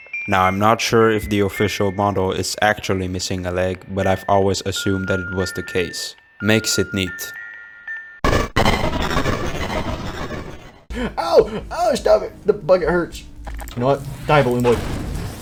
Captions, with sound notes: Now I'm not sure if the official model is actually missing a leg But I've always assumed that it was the case. Makes it neat (Phantom Balloon Bitch crying in pain) "You know what, die Balloon Boy"